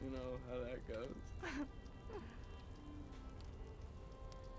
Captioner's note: laughs